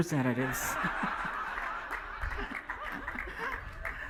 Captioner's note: laughing